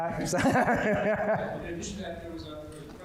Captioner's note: laughing